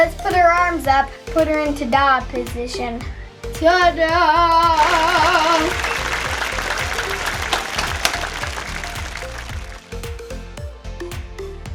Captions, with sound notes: Let's put her arms up, put her in ta-da position. Ta-da! (clapping) (light pop music)